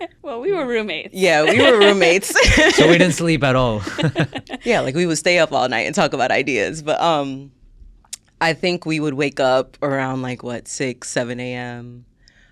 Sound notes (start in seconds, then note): 1.1 laughs